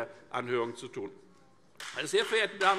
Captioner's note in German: Beifall Freie Demokraten